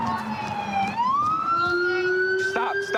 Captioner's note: sirens